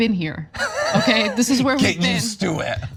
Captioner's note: laugh